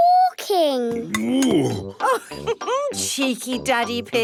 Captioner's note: laughs